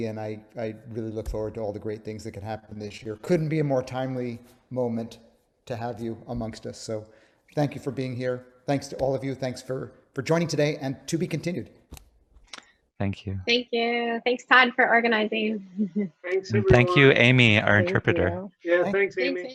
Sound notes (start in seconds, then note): 16.2 laughs